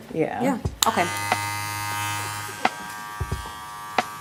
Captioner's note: razor buzzes; upbeat music